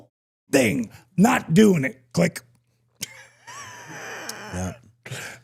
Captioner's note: laughs